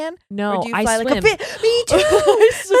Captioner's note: laughs; gasps